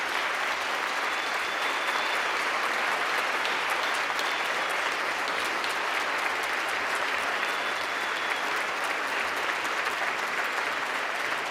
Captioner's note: applause